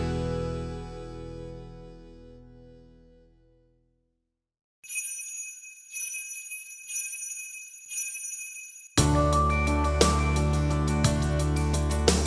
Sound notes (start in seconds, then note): 4.8 bells ring; 8.9 soft cheerful music